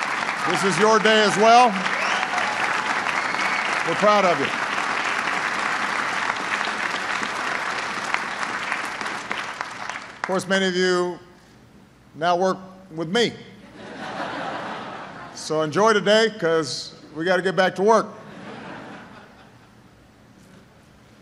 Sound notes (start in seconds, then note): 7.2 applause; 13.6 laughter; 18.2 laughter